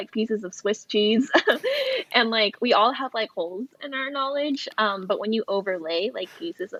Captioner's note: laughs